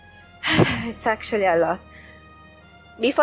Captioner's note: sigh